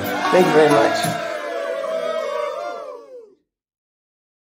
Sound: cheering

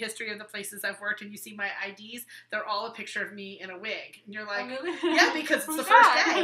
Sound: laughing

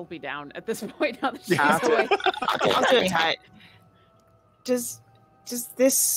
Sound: laughs

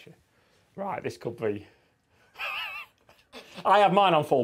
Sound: laughs

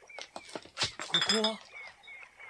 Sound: SFX: footsteps; SFX: bottles rattling

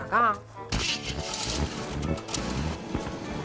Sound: engine starting

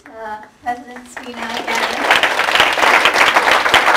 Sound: applause

